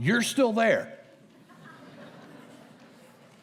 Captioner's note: laughter